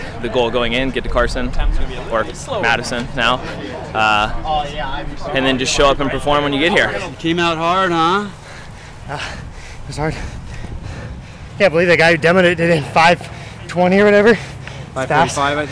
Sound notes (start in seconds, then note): 8.4 panting